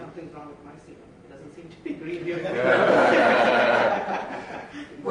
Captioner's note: audience laughs